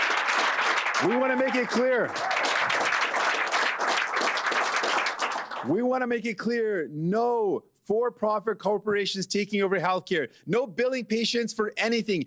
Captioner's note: cheering